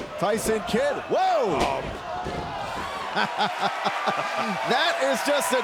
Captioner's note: crowd cheering